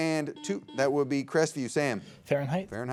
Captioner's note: buzzer beeps